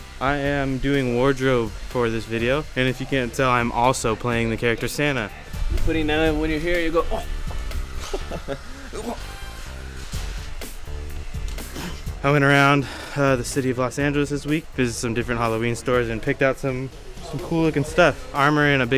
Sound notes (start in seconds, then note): 7.8 laughs